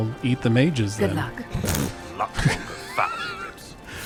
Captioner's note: laughs